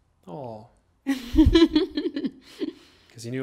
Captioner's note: laughing